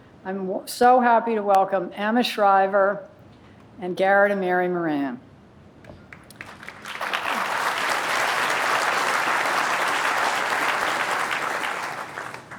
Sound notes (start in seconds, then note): 6.0 applause